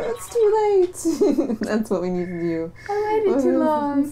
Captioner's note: laughter